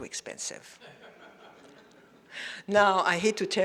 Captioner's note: audience laughs